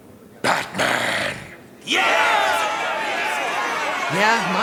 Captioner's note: all shouting angrily